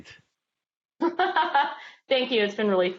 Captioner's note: laughs